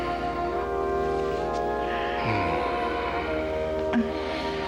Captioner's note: both Moan